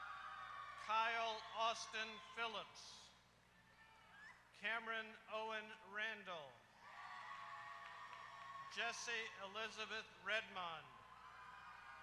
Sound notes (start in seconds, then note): 0.0 applause; 6.8 applause